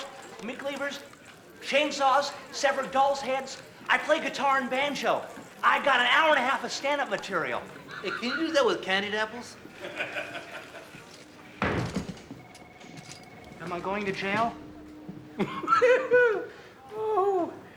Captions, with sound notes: I also juggle knives, meat cleavers, chainsaws, severed dolls' heads. I play guitar and banjo. I got an hour and a half of stand-up material. Hey, can you do that with candied apples? (laughs) Am I going to jail? (laughs)